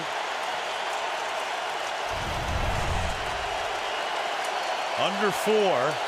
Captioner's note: cheering